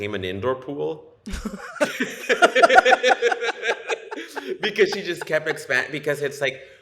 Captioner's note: laughter